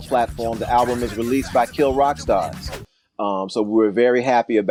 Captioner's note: whooshing sound